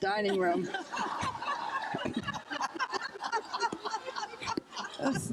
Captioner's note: crowd laughing